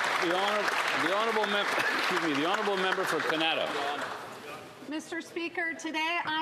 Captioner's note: some Applause